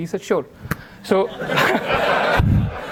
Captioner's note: audience laughter